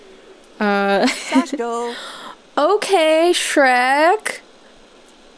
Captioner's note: laughing; gasp